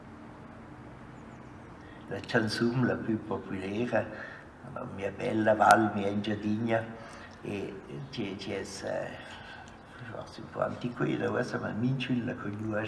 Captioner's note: non-english speech